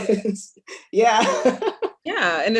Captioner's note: laughs